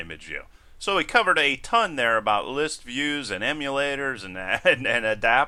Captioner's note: laugh